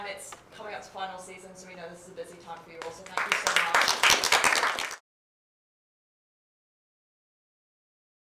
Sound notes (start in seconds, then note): 4.3 applause